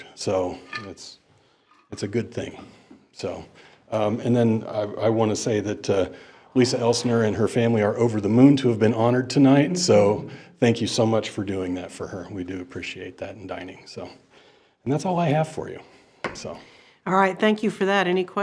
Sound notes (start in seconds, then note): none